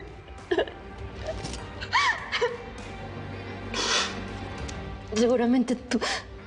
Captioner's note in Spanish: Sollozos